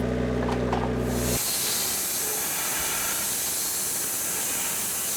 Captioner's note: blade sawing